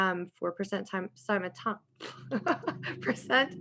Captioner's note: laughs